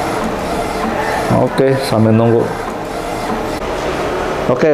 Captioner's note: distant chattering; printer machine sound